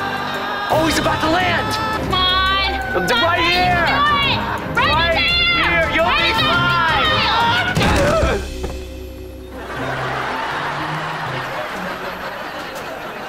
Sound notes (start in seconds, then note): 7.7 grunting